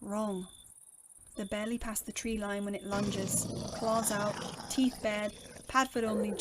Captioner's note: aggressive wolf snarl